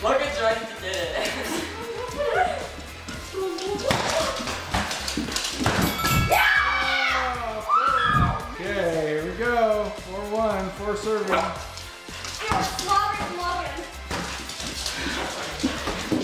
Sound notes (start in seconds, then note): 5.8 bell chimes; 6.3 screaming